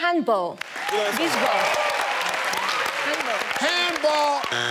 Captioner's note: audience cheers